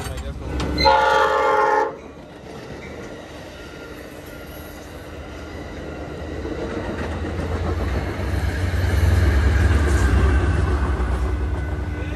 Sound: sound of construction workers and a passing Caltrans train

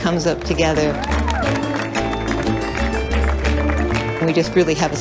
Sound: applause

